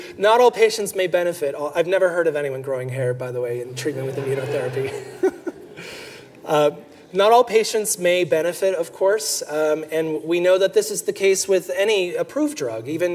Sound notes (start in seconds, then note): 3.9 everyone laughing